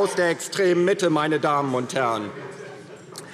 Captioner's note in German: Lachen Freie Demokraten